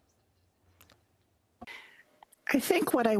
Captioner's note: speaking in French